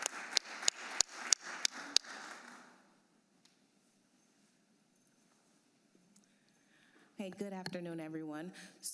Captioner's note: applause